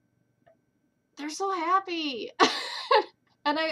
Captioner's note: laughter